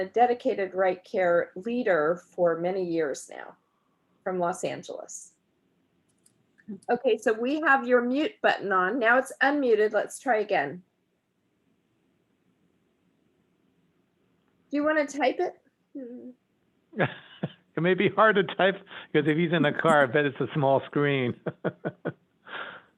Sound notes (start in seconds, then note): 16.9 laughing; 21.2 laughing